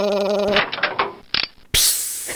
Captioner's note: click; hiss